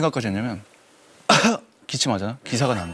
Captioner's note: cough